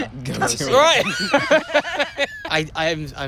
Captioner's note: laughter